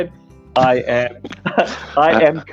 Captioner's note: both laughing